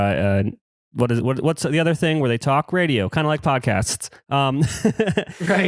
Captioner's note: laughs